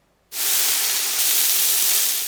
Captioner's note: sizzling sound